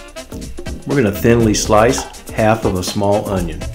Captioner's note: voiceover